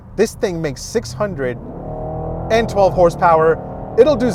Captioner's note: engine revving